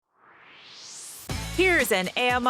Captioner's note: swoosh